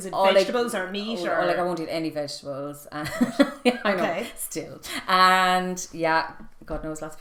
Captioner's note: laughing